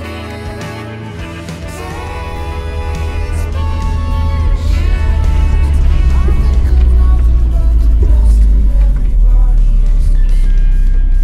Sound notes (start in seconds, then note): 1.7 engine noise fades back in; 6.1 music fades out